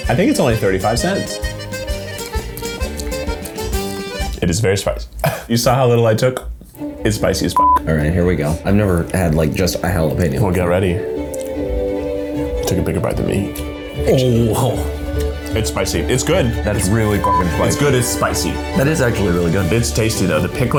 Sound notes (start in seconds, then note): 7.5 beep; 7.7 suspenseful music; 17.2 beep